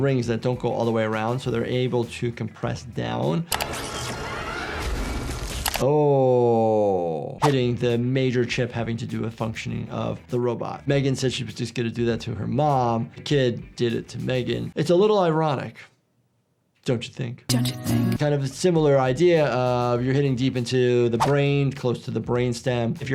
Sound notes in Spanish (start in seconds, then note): 3.3 música dramática; 3.6 zumbido y ruido mecánico